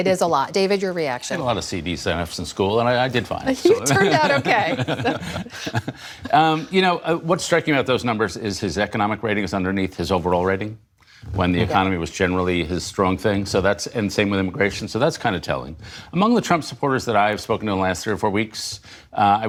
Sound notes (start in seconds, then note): 3.8 laughter